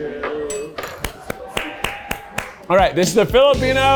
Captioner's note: crowd cheers